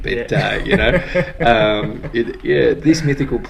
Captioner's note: laughs